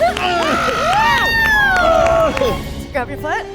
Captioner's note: laughs; groans